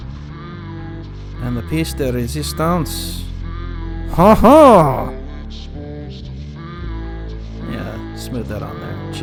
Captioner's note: french laugh